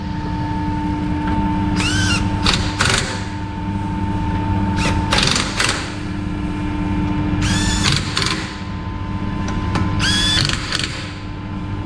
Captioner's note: noise from the impact gun